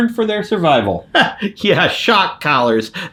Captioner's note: laughs dryly